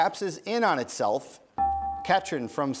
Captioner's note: bell rings